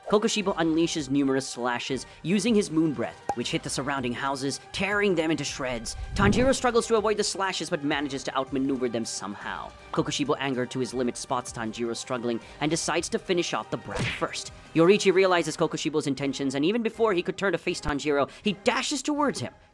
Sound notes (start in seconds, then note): 9.7 fast/explanatory